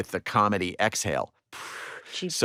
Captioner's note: exhales